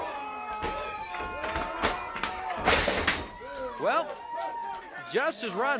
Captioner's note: crowd chatter